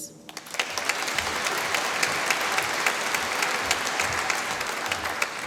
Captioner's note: applause